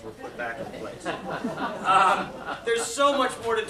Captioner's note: laughter